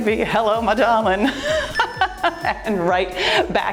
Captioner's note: laughs; timer beeps